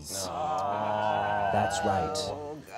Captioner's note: all groaning